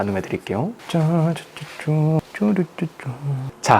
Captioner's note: humming